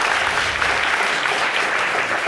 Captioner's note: audience applauding